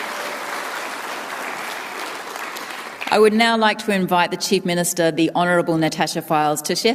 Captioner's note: applause